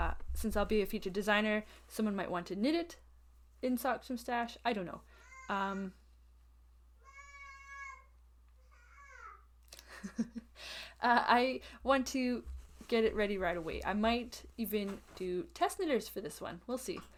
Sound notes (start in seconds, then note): 10.2 laughs